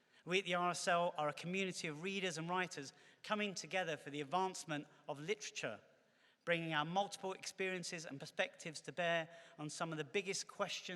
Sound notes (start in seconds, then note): none